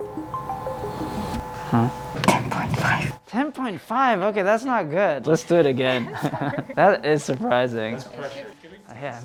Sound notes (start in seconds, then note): 5.4 laughs